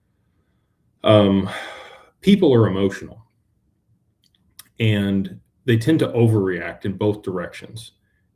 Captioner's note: sighs and gasps